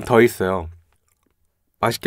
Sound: silence

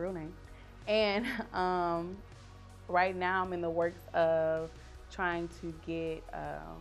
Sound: chuckle

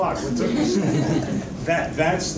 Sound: audience laughs

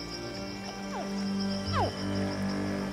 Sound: hatchling grunts

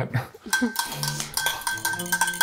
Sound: chuckling; fork clinking

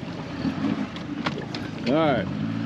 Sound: reel cranking; boat engine running

